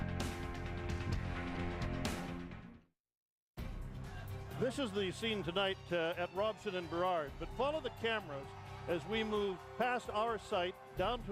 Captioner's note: cheering